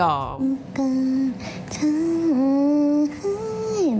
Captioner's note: humming